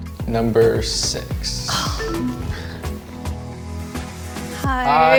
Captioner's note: low tone chimes; sighs